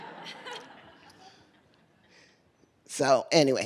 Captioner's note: laughter